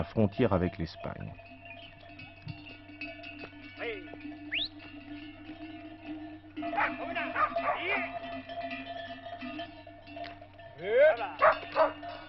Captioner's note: AUDIO - shepherds calling out to sheep dogs